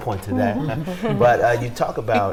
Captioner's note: chuckling